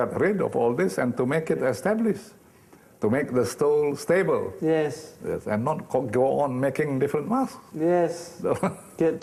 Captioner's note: laughing